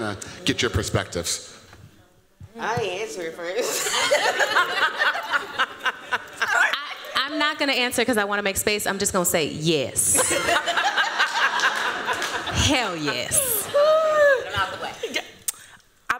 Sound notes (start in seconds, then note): 3.6 laughter; 10.1 laughter